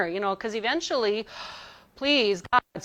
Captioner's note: gasps